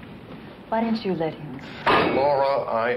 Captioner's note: bang